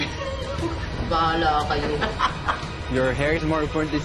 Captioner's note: laughing